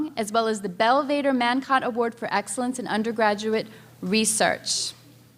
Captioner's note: none